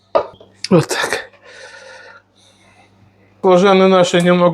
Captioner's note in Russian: тяжело вздыхает